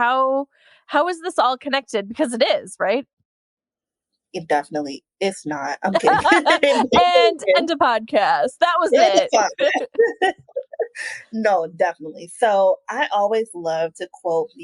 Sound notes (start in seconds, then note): 5.9 both laugh; 8.8 laughs